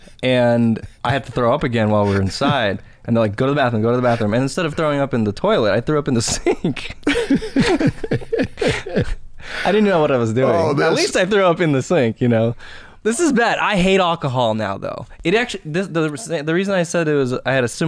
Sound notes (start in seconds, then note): 0.0 chuckles; 6.3 laughter